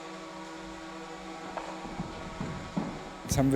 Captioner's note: machine noise in the background